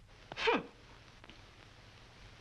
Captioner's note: scoffs